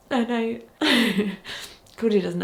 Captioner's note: chuckles